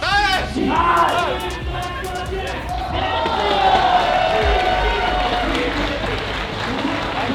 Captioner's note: crowd cheering